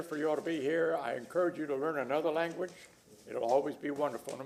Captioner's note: speaking spanish